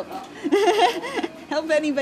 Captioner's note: laughing